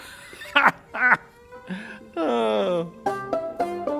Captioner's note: laughing